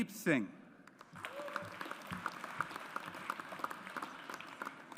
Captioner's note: audience applauds